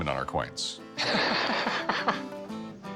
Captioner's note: laughs